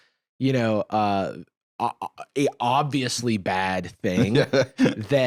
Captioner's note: laughing